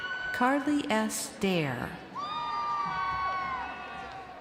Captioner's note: crowd cheering